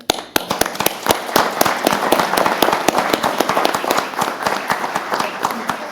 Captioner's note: applause